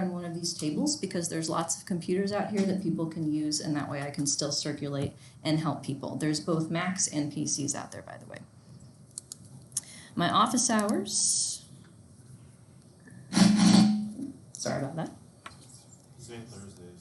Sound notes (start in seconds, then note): 13.3 desk screeching